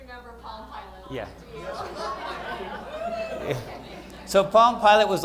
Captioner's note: laughter